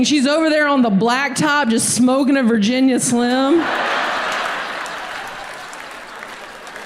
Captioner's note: audience laughs